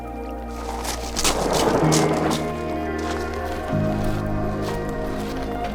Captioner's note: boat scraping; mellow music continues